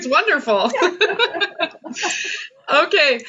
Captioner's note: laughs